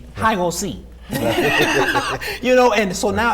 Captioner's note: laughing